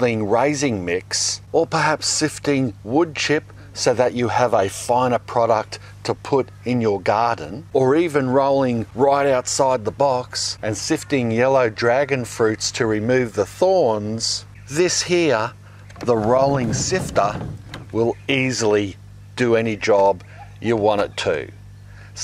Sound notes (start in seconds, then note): 16.0 sifter rattles